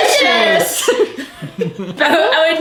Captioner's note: laughing